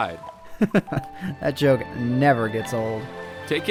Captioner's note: chuckles